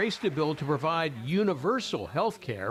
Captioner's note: applause